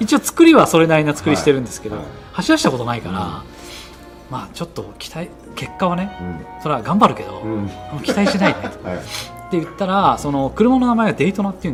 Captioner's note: laughs